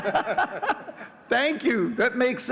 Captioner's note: all laughing